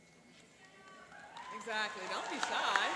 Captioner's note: applauding